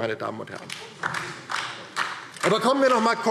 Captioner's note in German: Beifall DIE LINKE